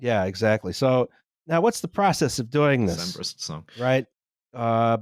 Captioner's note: muttering